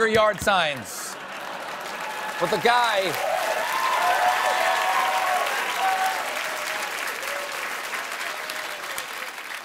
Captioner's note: cheers and applause